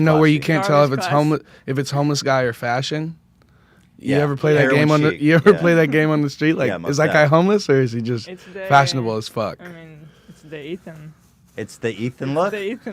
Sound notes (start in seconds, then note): 4.6 laughs